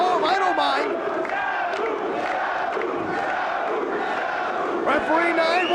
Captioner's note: spectators chanting "Sabu!"